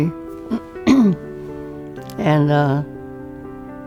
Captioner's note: clearing throat